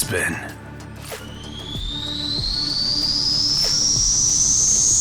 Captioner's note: ship whirring